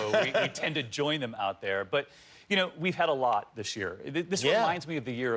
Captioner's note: laughter